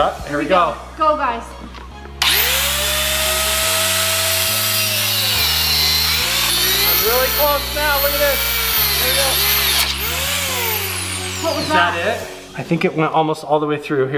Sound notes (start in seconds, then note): 3.0 saw buzzing